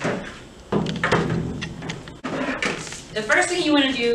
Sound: bucket clanking

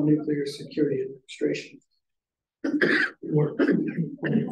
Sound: coughing

